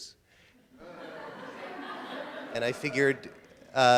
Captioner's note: audience laughter